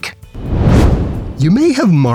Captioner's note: whoosh